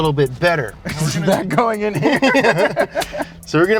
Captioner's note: laughing